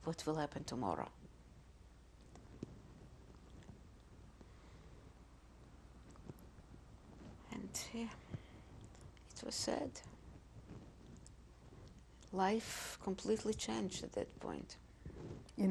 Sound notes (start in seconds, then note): 1.1 pauses for 6 seconds